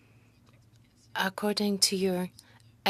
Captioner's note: speaking French